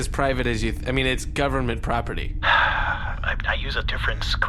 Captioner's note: sighs